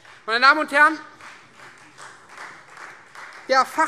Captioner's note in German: Beifall Freie Demokraten